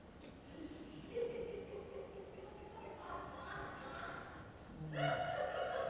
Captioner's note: laughing